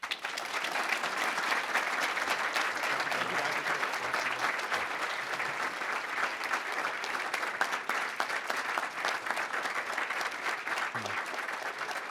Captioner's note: applause